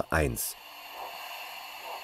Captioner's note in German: Zischen